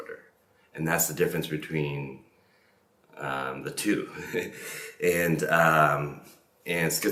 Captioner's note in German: lacht